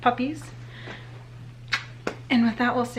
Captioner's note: smooches